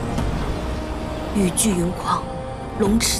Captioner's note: the storm and rain rage